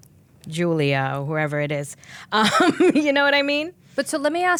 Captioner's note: laughing